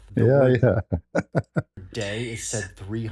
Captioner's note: ketawa